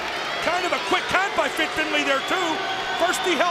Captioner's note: crowd cheering